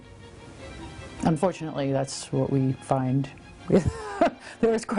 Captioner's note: laughs